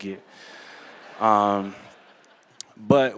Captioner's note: laughter